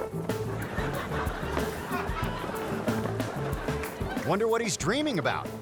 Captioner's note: audience laughing